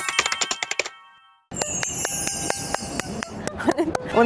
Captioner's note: clap, clap, clap